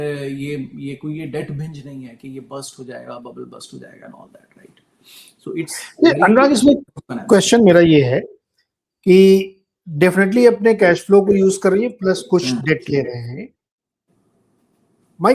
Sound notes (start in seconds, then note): 5.3 nasal voice